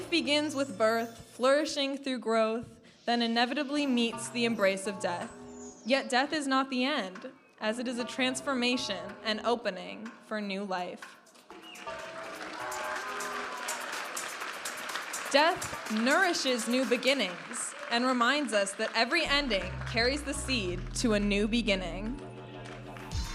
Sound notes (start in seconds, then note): 11.5 audience applauding and cheering; 14.1 vibrant music